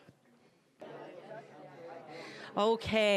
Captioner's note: general chatter